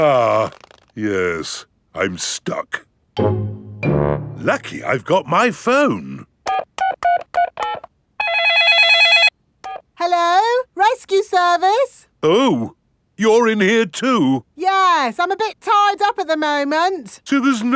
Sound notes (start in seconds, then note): 0.0 grunting; 6.4 dialing; 8.2 cell phone ringing